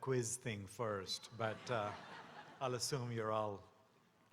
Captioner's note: audience laughing